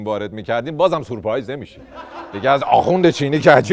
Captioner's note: laughter